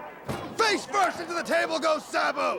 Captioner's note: crowd chatter